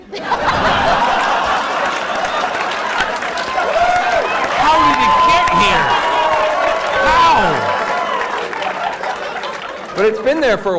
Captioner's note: laughter